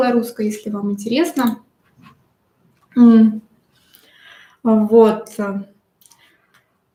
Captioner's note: вздох